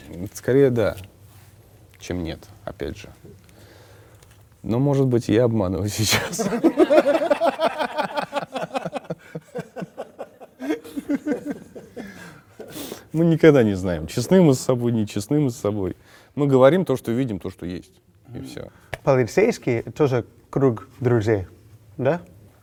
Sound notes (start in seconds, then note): 7.9 laugh